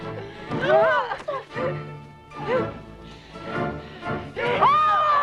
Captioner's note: Tracima gasps; Hundra grunts; Hundra yells